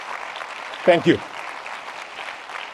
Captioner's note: audience applause